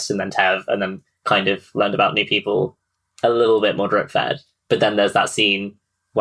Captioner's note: none